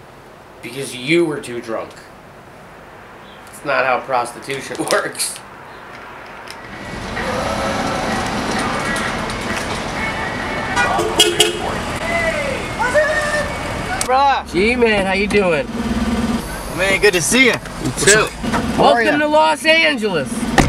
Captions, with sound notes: because YOU were too drunk. That's not how prostitution works *doors open* *car honks* Hey! What's up? Rob! G man! How you doing? Man good to see you You too. Welcome to Los Angeles